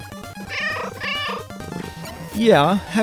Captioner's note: meow, meow